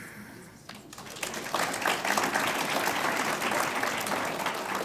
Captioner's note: audience applauds